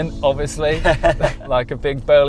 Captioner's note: laughs